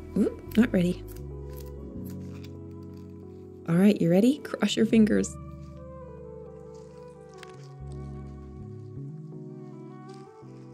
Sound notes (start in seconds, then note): 1.0 gloves squeek; 5.4 paper rustles